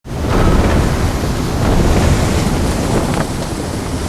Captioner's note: wind whooshing, waves splashing